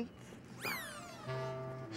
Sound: electronic whirring

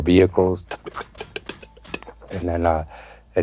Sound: imitates bullets again

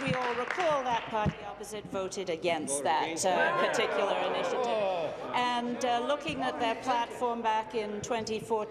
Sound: applause

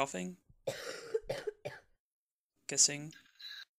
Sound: coughing sound

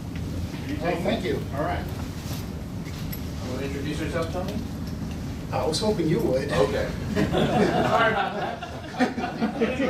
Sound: laughter

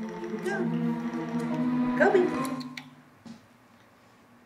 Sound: none

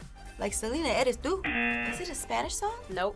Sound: audio buzzes

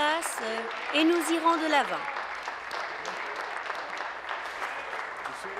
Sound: applause

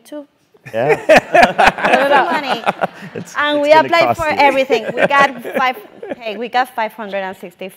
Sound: laugh

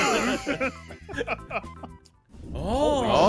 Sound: laughs

